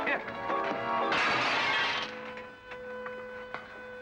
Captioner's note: glass crunching